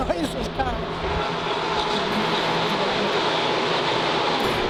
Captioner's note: cars racing